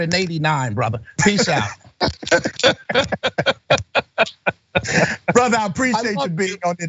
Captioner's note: laugh